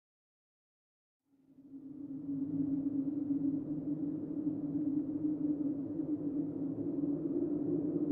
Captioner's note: wind blowing